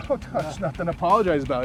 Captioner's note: chuckling